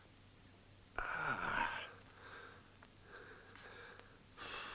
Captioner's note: groans